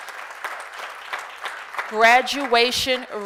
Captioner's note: applause